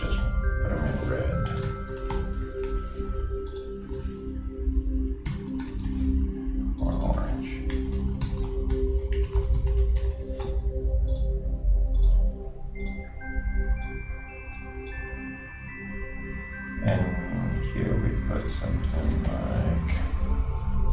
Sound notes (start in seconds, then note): 7.7 keys clacking; 11.9 mouse clicking; 12.1 beautiful, soothing chime and bell music